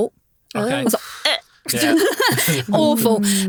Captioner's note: gags